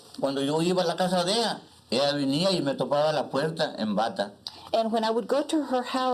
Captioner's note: speaking Spanish